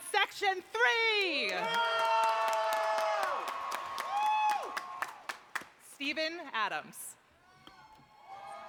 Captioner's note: applause